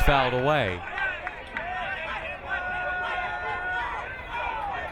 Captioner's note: crowd cheering